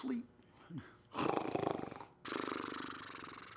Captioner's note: snoring